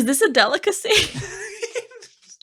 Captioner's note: laughing